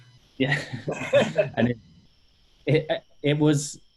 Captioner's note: laughing